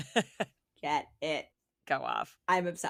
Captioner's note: laughing